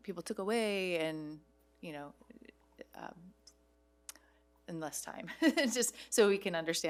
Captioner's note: laughs